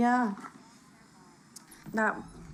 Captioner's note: television shuts off